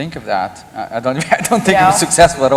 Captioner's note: laughter